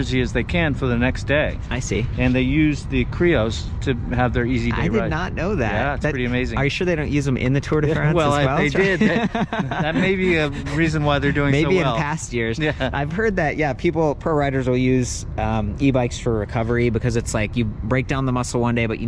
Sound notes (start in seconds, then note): 9.4 laughs